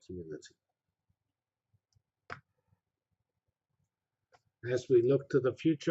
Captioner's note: pause